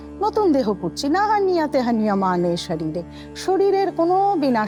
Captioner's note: chanting